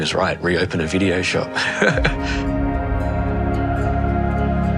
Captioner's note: laughs